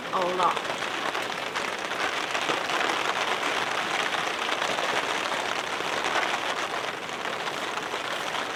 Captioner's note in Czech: Zní silný déšť